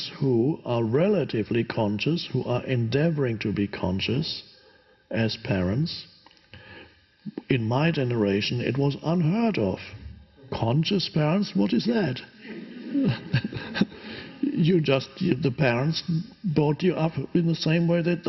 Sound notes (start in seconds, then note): 12.4 audience laughs; 12.4 Eckhart laughs